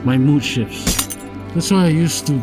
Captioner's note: glass shatters